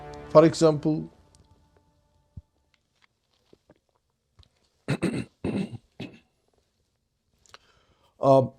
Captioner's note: clears throat and cough